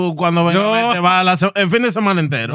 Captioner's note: speaking In Foreign Language